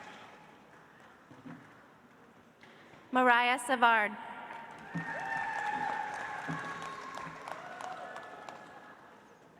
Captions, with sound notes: Mariah Savard. (audience applauds)